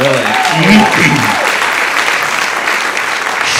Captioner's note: audience applauding